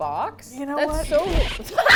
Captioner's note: record scratch; both laugh